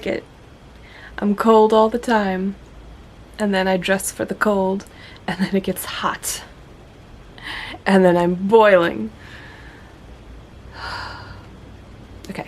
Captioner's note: aggrieved sigh